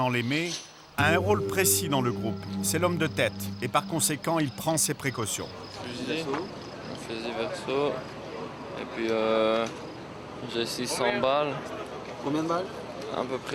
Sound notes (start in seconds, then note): 5.6 French spoken audio